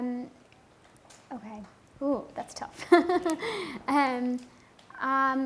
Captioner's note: laughing